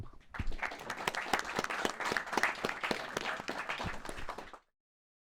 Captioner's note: students clapping